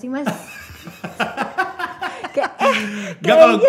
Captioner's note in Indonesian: tertawa